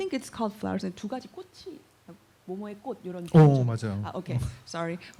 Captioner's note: speaking korean